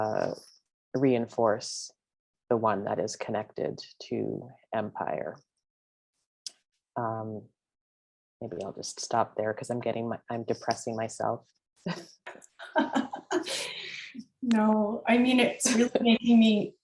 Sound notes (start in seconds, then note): 14.4 laughs